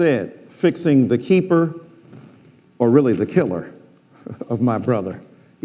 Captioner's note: chuckles